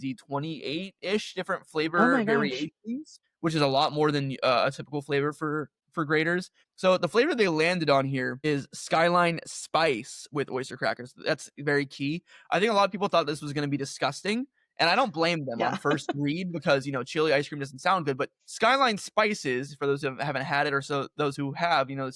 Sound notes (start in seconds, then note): 15.6 laughter